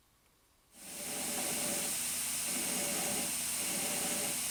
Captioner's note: grinding sound